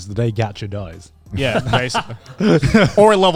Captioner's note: laughs